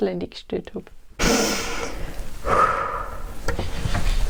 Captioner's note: takes a deep breath